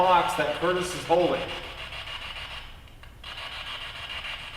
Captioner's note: static buzzing